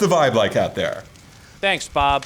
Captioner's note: fire crackles